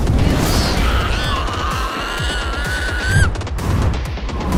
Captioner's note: screaming